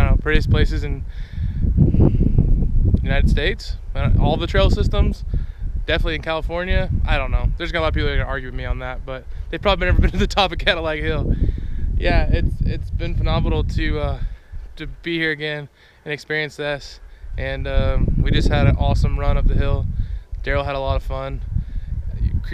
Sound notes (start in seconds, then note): 9.8 chuckles